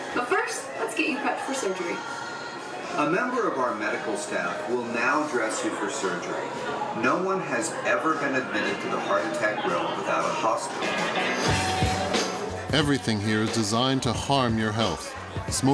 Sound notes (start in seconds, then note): 10.6 chattering; 10.7 upbeat music